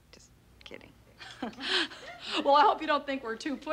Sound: chuckles

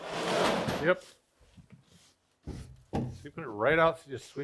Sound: metal scraping

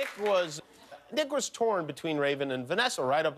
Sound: cheers and applause

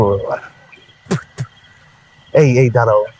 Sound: spitting

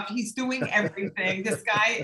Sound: laugh

